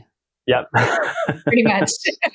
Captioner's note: laughs